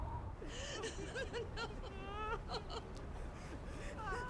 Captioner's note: women crying